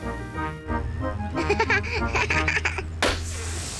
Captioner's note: laughs; tire pops, hisses